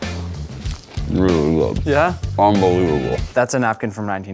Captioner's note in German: murmelt